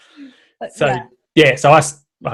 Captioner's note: laughs